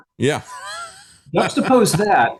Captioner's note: laughing